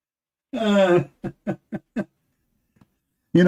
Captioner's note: Ketawa